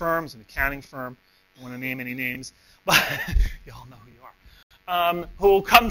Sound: laughs

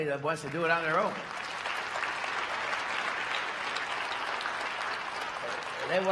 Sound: applause

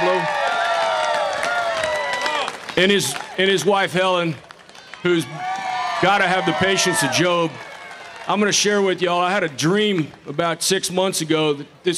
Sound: applause

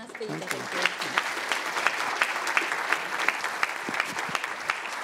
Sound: audience applauds

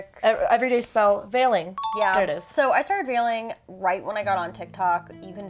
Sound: ding

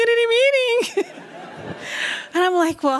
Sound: laughs

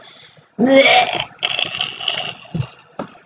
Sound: puke sound

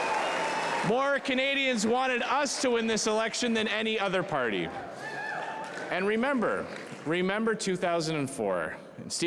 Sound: cheering

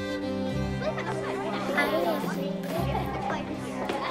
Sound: children chattering

